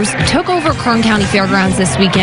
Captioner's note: cheering and applause